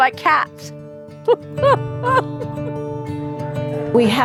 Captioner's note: laughs